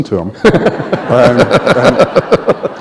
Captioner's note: laughter